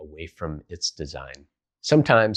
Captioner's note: beat